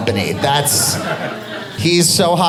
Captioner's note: audience laughing